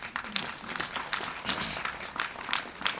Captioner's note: applause